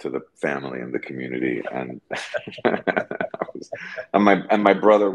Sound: laughing

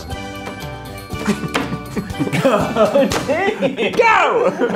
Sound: all laughing

